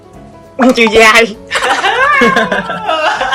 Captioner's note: laugh